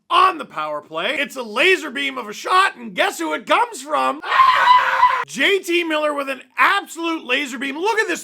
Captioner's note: screams